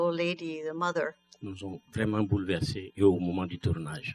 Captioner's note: speaking french